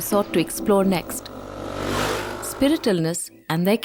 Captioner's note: motorcycle engine revving